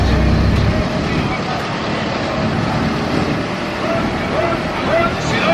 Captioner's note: engine revs